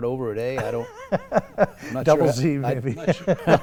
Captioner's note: laugh